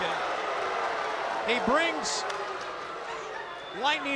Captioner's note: crowd cheering